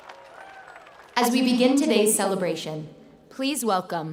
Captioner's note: applause